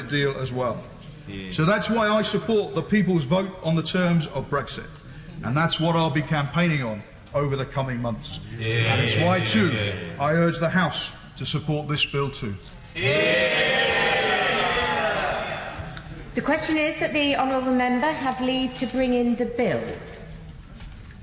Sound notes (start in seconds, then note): 13.0 cheers